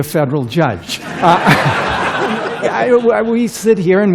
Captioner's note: laughter